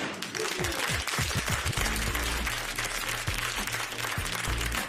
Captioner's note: applause